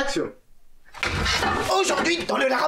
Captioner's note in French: Bruit d'objet qui tombe; Rire